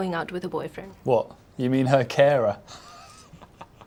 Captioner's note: chuckling